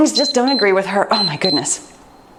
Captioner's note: timer beeps